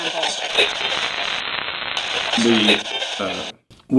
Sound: radio tuning and static

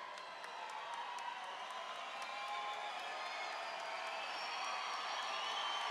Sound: audience cheering and applauding

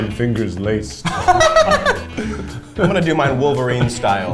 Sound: laughs

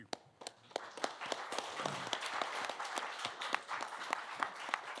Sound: applause

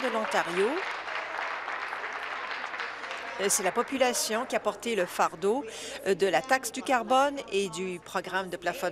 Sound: applause

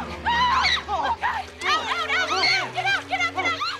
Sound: <i> all screaming</i>

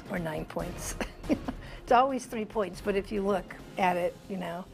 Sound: laughter

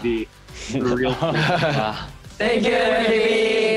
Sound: laugh

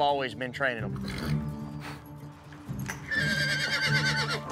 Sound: horse grunts; horse neighs

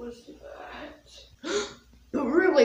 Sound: gasp

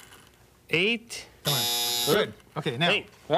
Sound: timer buzzing

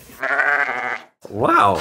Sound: sheep bleating

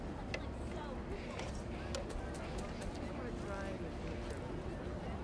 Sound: people chattering

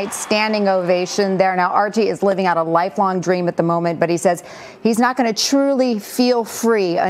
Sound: cheers and applause

